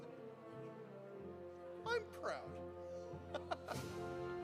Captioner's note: laughs